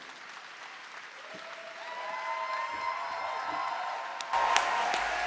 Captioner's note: applause